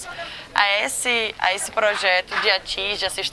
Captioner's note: hammering